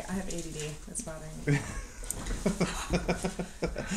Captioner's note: giggling